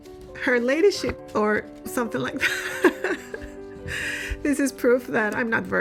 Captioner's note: laughing